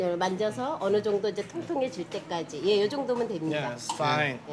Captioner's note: woman speaking Korean